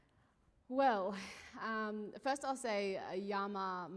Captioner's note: speaking indigenous language